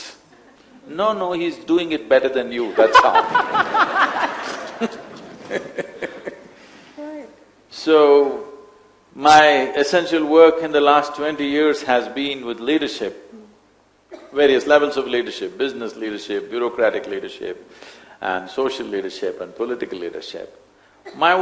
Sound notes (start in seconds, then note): 5.9 laughter